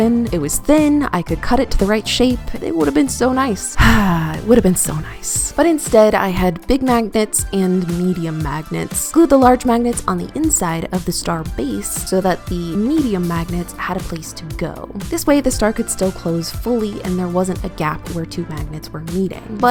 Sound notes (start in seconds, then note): 3.7 sigh